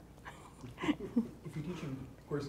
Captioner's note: laughter